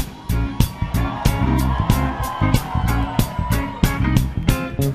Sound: audience cheering; hip hop music

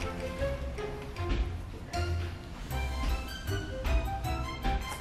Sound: mischievous music; steps approaching

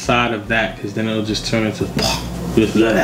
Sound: floppy noises

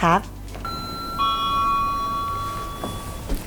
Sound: doorbell ringing; เสียงกริ่งประตู

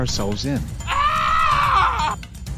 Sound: screams

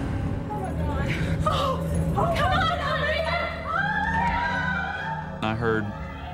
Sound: panicked hysteria

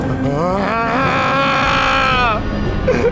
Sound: growling

